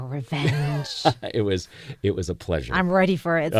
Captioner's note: laugh